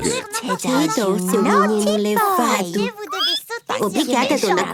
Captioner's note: squeaking